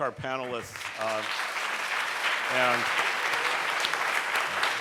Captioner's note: audience clapping